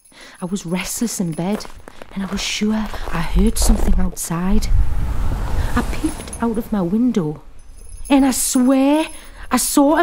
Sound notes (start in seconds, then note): 0.0 bells jingle; 0.8 footsteps crunch; 4.3 car drives off